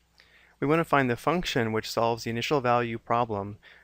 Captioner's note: voiceover